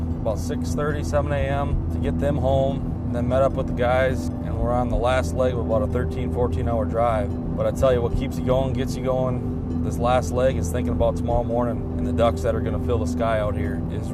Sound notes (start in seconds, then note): none